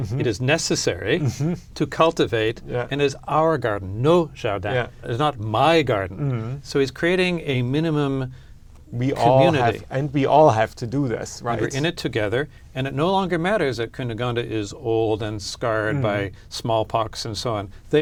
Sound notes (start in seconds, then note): 3.9 speaking french